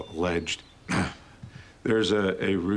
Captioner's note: clears throat